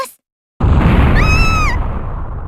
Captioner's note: panicked scream